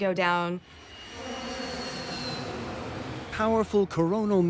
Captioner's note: plane engine roaring